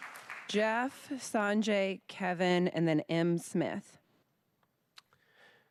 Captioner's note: applause